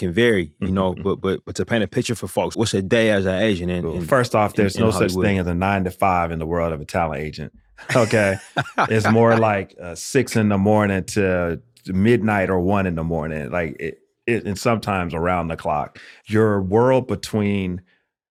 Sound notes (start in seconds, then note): 7.8 laughter